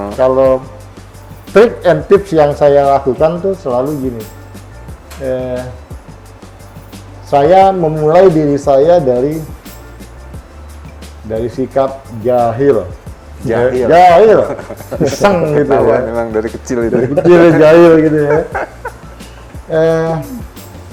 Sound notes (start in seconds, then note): 14.1 laughs